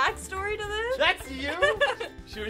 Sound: laughing

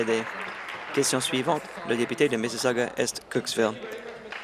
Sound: applause

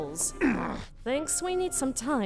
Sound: annoyed grunt

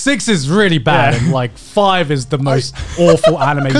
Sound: laughing

